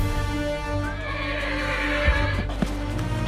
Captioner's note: horse whinnying